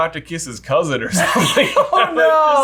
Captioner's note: laughs